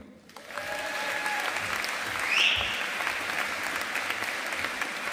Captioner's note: audience applauding